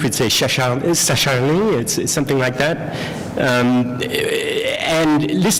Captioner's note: french